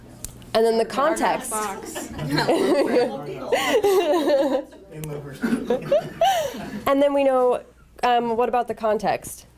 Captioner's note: laughter